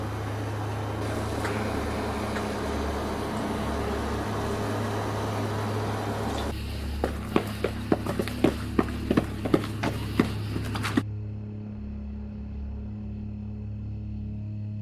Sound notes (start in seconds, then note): 7.2 footsteps echoing; 11.5 intense music